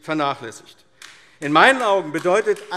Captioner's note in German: Beifall AfD